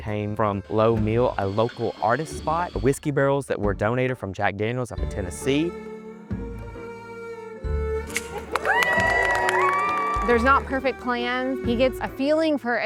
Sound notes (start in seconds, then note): 8.0 ribbon cuts; 8.3 cheering